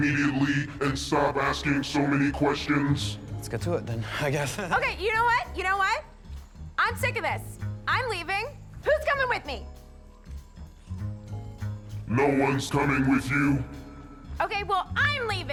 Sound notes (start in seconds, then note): 4.1 chuckles